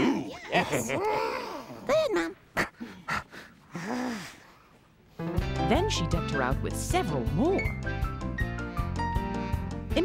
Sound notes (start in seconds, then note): 2.4 huffing angrily